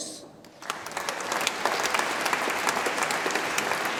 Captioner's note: audience applauds